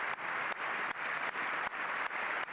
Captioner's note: applause